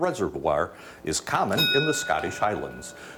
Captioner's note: bell dings